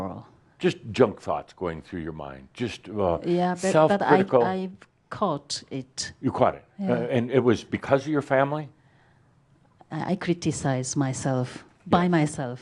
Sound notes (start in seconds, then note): none